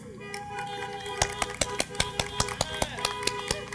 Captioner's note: applause